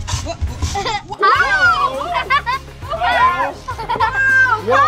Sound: exclaiming, laughing

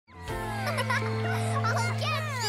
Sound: laughing

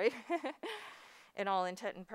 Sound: laughs

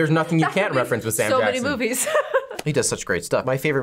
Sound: laughs

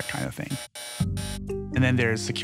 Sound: error noise

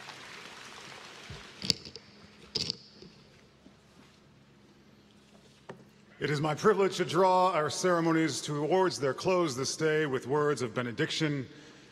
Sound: applause

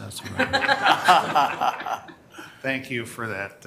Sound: members laughing

